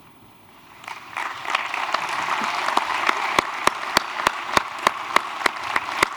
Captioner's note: applause